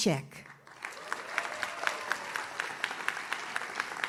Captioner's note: audience claps